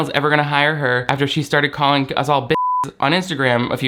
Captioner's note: beep